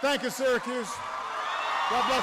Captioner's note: applause